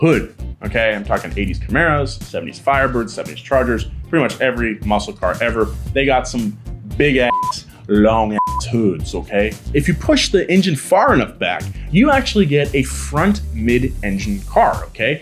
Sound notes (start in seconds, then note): 7.2 beep